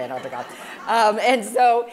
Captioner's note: laughing